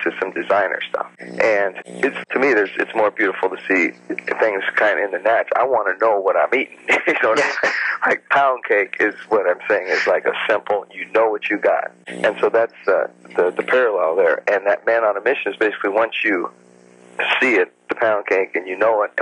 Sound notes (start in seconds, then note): 6.8 laughs